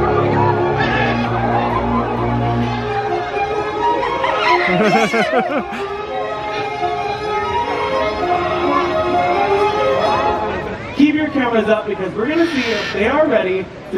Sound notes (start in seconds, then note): 0.7 parrots squawking continues; 4.6 laughing; 7.4 mesmerising music continues